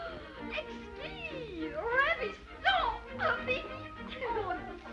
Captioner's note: Becky speaking in foreign language; seamstress speaking in foreign language